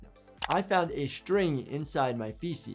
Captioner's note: keyboard keys clicking